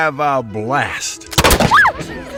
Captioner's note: gun shot